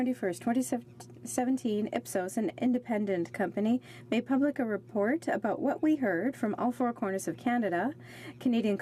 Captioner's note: speaking French